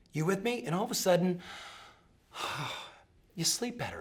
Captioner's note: sighs